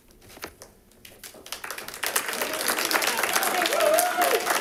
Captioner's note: audience clapping